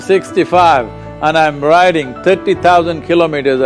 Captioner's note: speaks in Italian – not transcribed